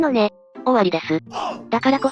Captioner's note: laughs